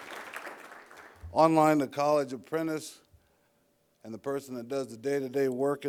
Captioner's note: applause